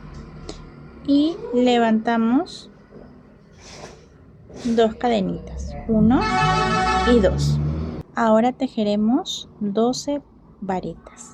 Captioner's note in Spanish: resoplido